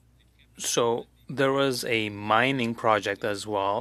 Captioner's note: speaking French